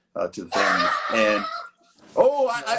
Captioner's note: blaring sound